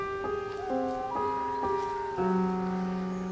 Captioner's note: owl calling